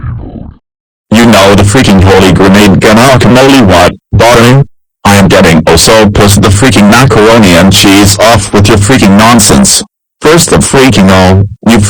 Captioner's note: In Eric's Voice